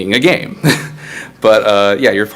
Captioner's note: laughs